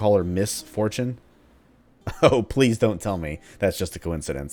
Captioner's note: chuckles